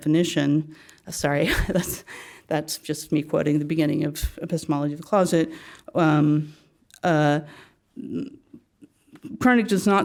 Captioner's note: laugh